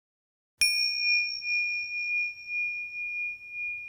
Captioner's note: bell dings